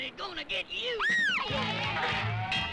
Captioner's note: Jane screams